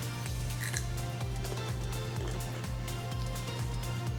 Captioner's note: crunching